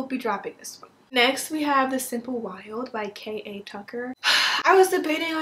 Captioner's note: sigh